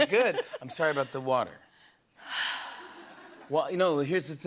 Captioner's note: sighs